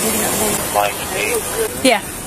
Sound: radio chatters

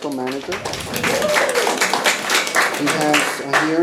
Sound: attendees clapping

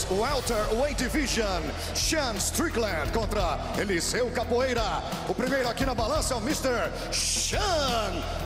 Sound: speaking foreign language

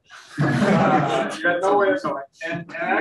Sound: room laughs

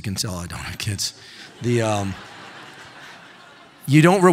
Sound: audience laughing

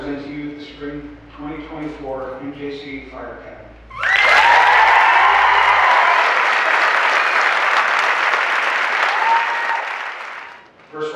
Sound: cheering and applause

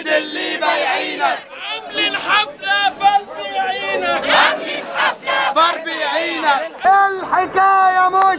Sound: chants

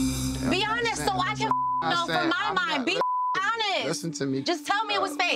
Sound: beep

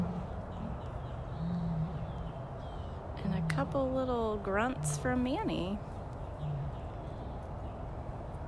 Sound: Nikita roaring

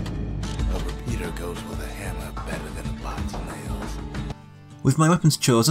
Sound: in-game audio

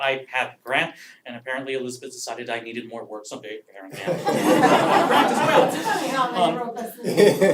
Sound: laugh

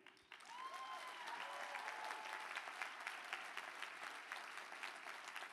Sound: applause

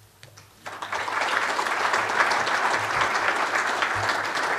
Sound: audience applause

